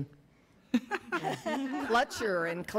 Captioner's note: audience laughs